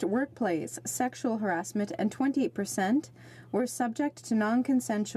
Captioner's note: speaking in french